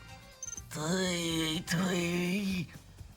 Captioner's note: groans